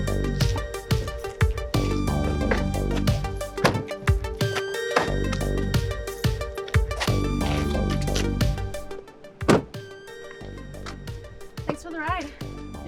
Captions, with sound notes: (doors closing) (door closing) - Thanks for the ride.